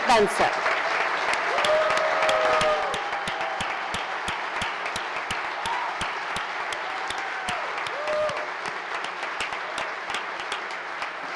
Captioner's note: applause